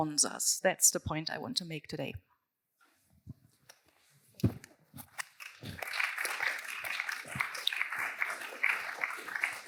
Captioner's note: applause